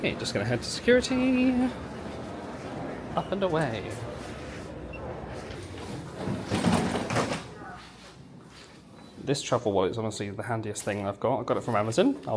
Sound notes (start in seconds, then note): 6.2 luggage thumps